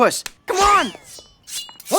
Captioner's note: humming